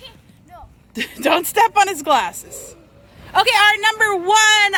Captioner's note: laughs